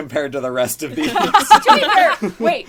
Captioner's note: laughs